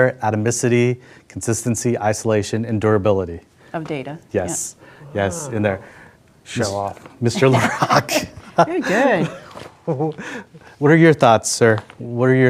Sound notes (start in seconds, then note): 7.3 laughing